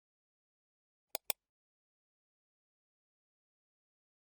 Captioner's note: click